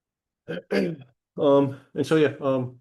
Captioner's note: clears throat